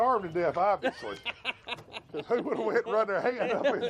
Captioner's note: laughs